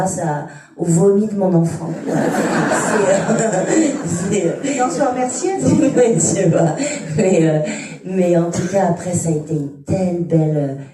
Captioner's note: laughter